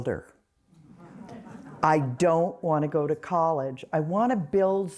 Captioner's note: laughter